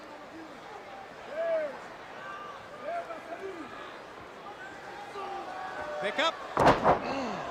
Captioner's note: crowd chatter